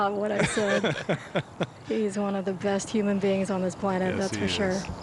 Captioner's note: laughter